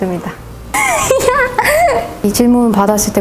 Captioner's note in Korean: 웃음